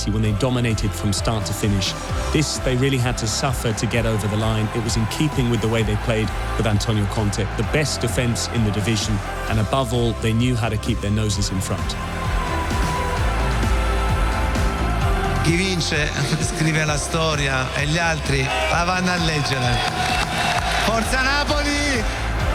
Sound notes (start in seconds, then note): 19.9 crowd cheering